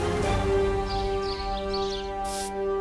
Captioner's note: birds chirping